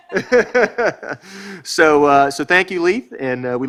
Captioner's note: speaker laughs